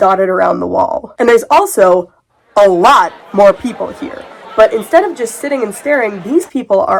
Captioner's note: crowd chattering